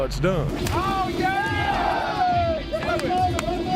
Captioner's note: cheering